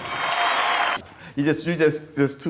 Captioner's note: crowd cheers